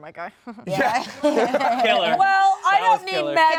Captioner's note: all laugh